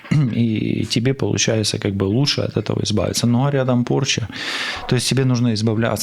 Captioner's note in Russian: откашливается